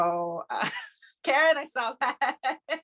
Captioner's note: laughs